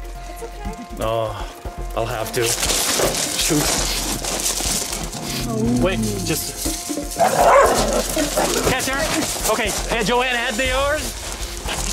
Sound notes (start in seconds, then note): 4.9 growl; 7.1 barks